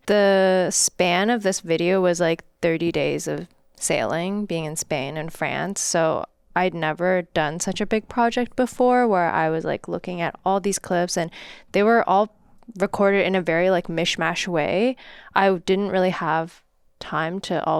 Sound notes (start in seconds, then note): none